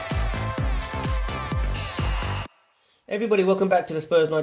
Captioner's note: 환호성